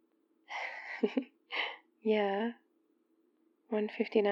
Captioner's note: laughs